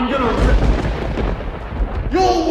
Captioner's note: thunder strikes